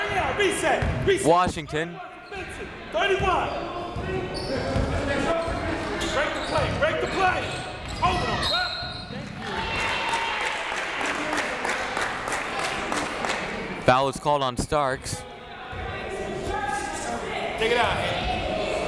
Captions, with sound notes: Washington (whistle) (crowd cheers) Foul is called on Starks.